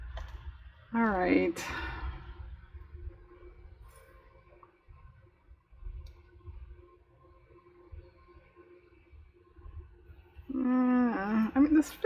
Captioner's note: laughs